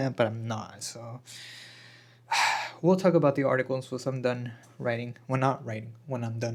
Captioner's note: sighs and gasps